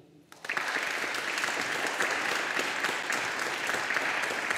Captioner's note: audience applauding